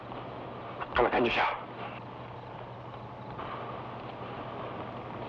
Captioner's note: Magno speaking in Tagalog